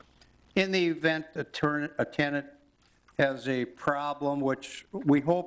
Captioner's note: stutters